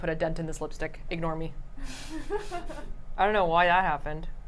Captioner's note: laughter